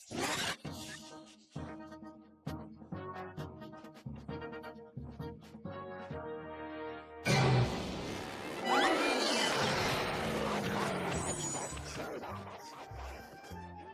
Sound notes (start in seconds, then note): 7.0 growls; 8.6 screaming